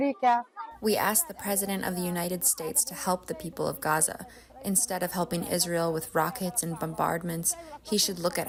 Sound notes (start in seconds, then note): 1.5 through translator